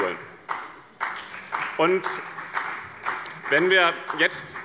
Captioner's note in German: Beifall bei dem BÜNDNIS 90/DIE GRÜNEN und der CDU